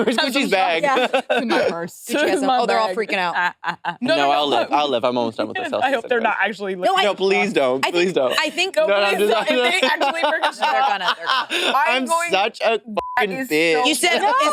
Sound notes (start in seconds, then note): 3.2 participants chattering; 10.2 participants chattering; 13.0 beep